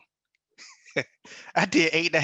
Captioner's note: laughs